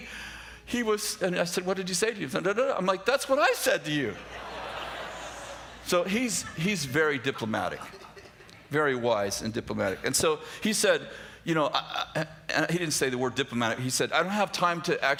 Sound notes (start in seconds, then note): 4.1 laughter